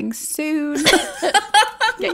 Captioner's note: laughing